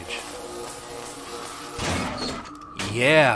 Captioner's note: omnicutter buzzing; panel clunks open